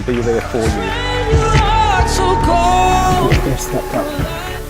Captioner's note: audience clapping and cheering